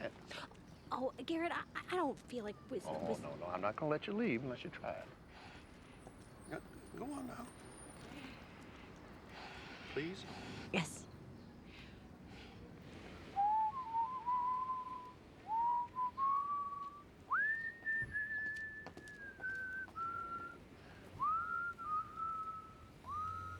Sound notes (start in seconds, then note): 13.1 both whistling